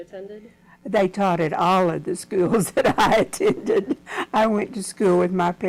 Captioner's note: laughs